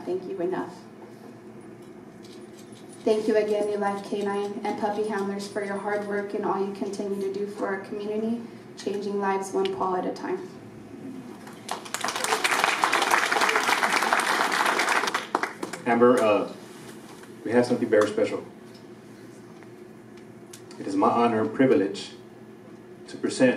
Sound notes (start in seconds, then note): 11.4 applause